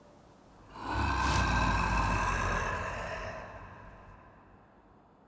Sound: grrrrrrooooooooooowwwlllll

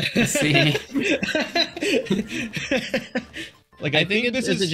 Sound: lots of laughing

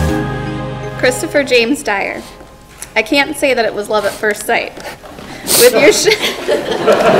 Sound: laughter

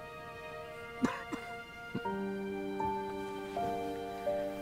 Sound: coughing

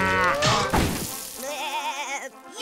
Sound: mooing; bleating

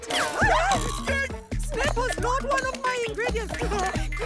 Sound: shrieks

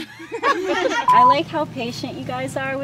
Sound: laughing

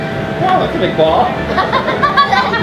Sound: laughs

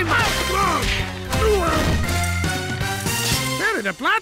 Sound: getting beaten up noises

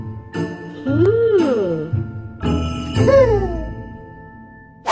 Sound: playful Christmas music; giggle

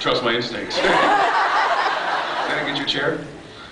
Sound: laughs

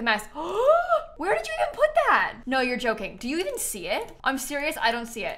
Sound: gasps

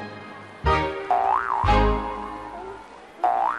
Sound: grasshopper boinging

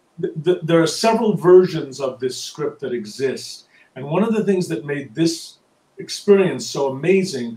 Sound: none

